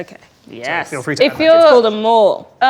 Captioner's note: overlapping chattering